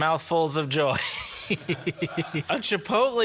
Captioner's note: chuckles